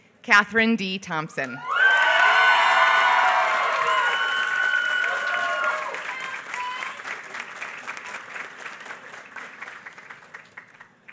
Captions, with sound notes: Kathryn D. Thompson. [APPLAUSE]